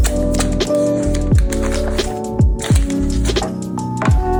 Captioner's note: plastic rustling